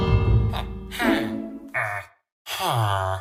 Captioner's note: bell tolls